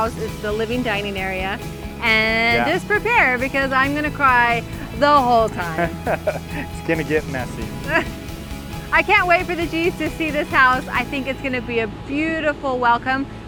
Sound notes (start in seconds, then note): 5.6 laughter; 7.6 chuckles